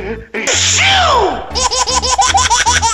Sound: sneezing; baby laughing

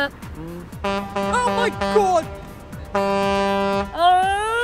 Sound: sings theme; ship horn

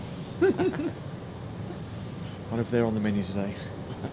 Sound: both chuckle

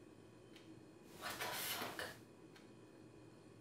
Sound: whispered

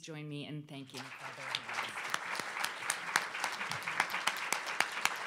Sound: audience applauding

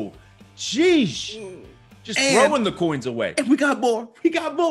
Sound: laugh

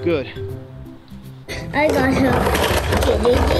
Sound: plastic toys banging; children vocalizing

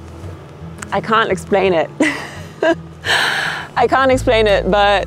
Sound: laughs

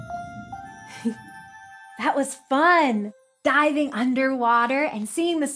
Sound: twinkling music; giggles

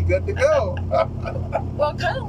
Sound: laughter

